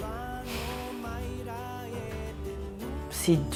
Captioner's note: sighs